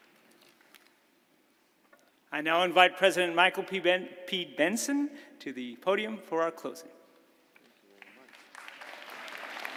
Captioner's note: applause